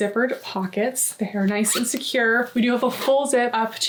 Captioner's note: zipper zipping